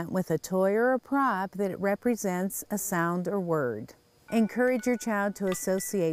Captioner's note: toy sound